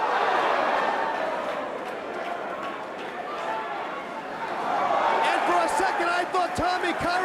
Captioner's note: crowd chatter